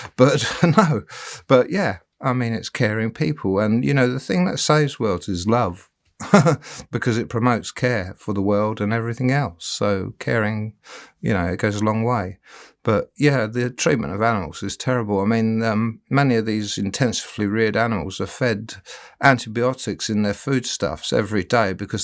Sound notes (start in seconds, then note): 6.2 laughing